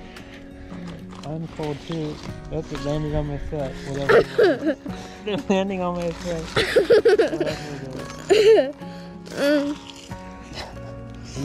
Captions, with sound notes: I'm cold too. That's landing on my foot. (Laughing). Ooh, it's landing on my foot (Laughing). You doing that on purpose?